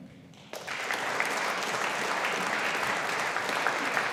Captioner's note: audience applauding